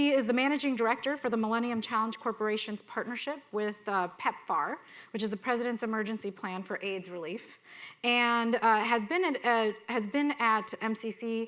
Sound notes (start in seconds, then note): none